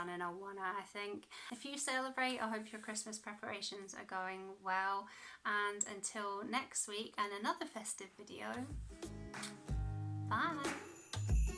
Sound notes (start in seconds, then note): 9.3 kiss